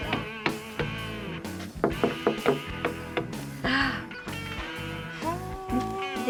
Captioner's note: knocking